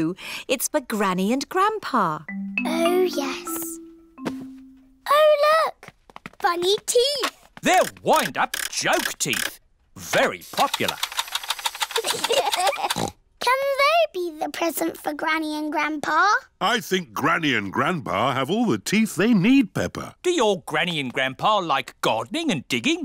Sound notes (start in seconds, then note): 11.9 both laugh